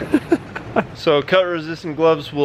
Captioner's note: laughs